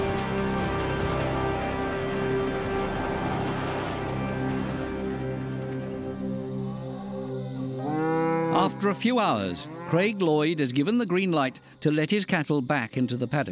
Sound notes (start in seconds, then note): 7.6 cow mooing